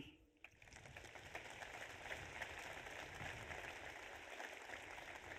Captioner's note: audience applauds